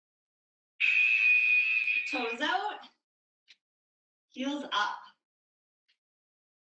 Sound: alarm blares

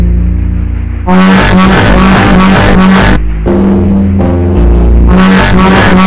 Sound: horn; sound of panic

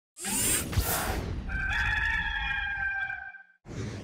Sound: cock crowing

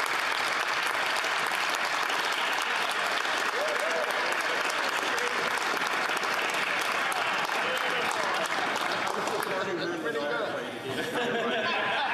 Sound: some Applause

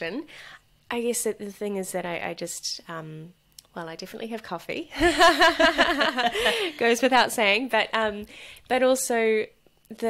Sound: laughs

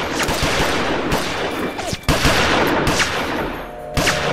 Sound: guns firing

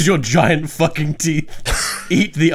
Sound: laughs

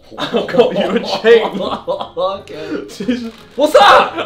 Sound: laughs

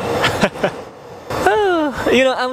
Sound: chuckle

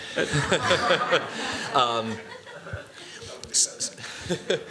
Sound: laughter

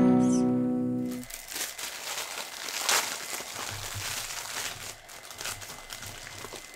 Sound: package crinkling

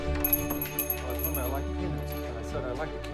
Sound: bell chimes; indistinct chatter

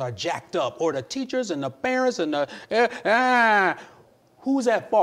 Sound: groans

